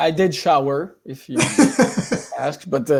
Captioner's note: laughs